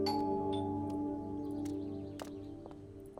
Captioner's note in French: on sonne à la porte